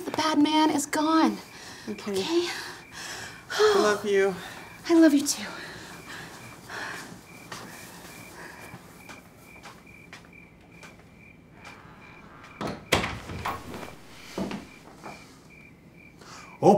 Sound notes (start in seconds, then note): 3.6 sighs; 11.5 door shuts